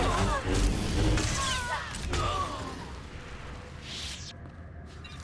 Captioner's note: grunting